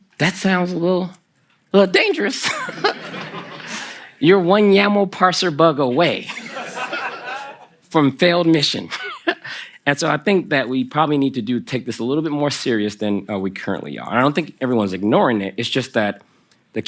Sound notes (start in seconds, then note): 2.6 Kelsey and the audience laugh; 6.0 the audience laughs; 9.4 laughs